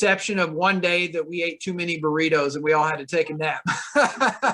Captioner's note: laughter